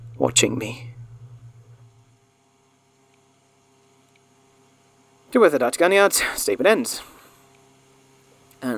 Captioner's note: muffled rain fades, replaced by tape sounds